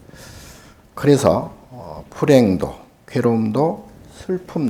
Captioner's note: speaking Korean